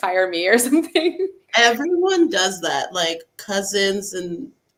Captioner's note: laughs